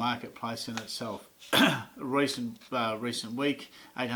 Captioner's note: clears throat